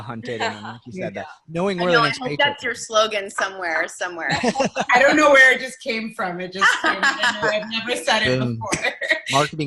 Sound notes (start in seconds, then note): 0.2 laughing; 4.3 laughing; 6.6 laughing